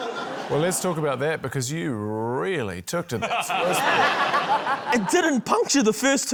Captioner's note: laughter; laughter